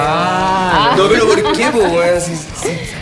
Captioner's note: laughs